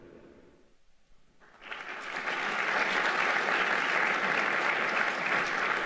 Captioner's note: audience applauding